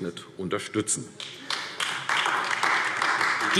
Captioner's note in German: Beifall AfD